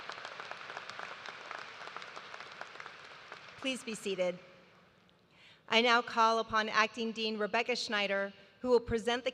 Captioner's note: applause